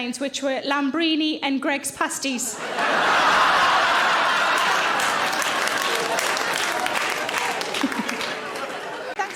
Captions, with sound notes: which were Lambrini and Greggs pasties. (audience laughing) (audience applauds)